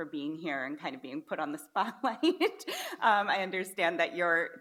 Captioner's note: laughs